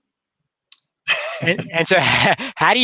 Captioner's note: laughs